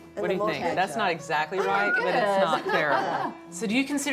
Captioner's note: laughs